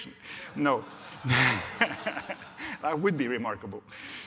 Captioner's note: audience laughs